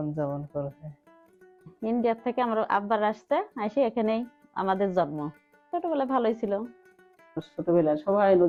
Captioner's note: speaking bengali